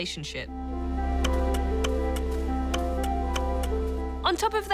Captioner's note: keys click